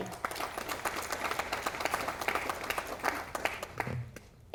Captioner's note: audience applauding